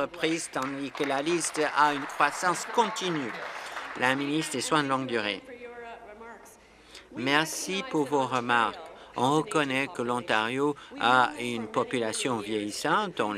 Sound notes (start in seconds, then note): 5.0 applause